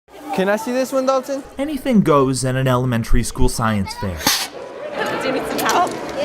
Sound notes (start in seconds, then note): 4.2 rocket blasts off